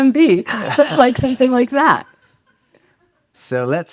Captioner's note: audience laughs